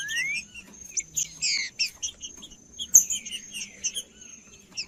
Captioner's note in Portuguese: trinca ferro cantando; trinca ferro cantando